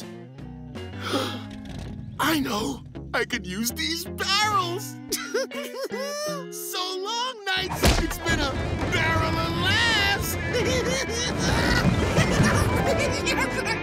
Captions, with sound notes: [gasps] I know, I could use these barrels! [giggling] So long knights, it's been a barrel of laughs! [giggling] [laughing]